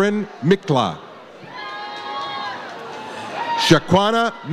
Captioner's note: audience cheers